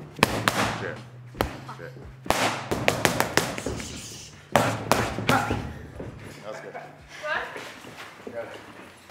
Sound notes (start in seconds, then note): 0.2 pads banging; 4.4 pads banging